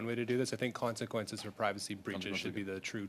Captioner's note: speaking French